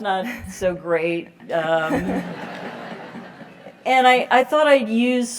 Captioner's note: laugh